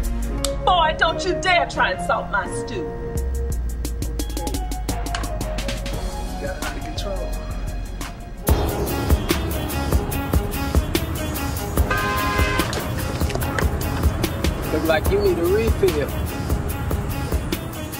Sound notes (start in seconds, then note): 12.1 horn honking